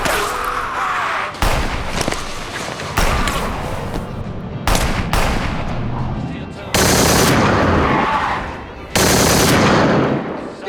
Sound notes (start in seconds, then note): 1.4 bullets whizzing; 6.6 gunshots blasting